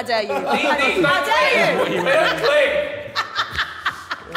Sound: woman laughing

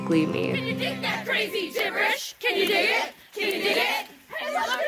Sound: many voices

